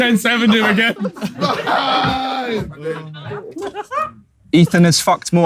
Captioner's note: KSI laughing